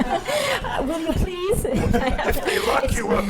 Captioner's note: audience laughing; laughing